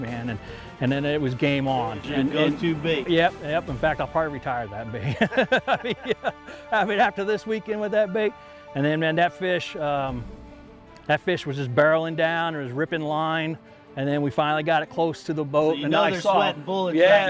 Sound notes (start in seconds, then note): 5.0 laughing